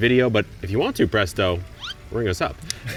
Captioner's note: effect squeaks